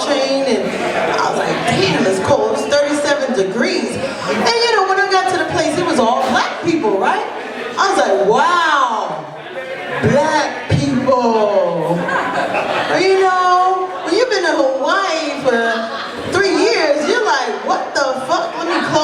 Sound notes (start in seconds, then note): 12.0 laughter